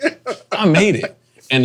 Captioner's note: laughing